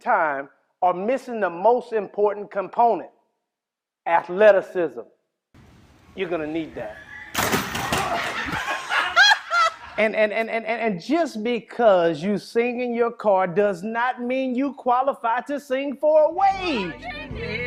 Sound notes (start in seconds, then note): 7.6 sinister laughter